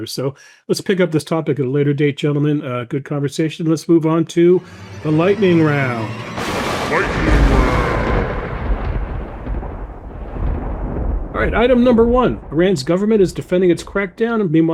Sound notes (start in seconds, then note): 8.2 lightning crashes; 9.5 thunder rummbling